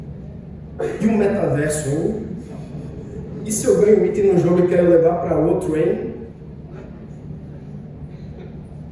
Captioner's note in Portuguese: Risadas leves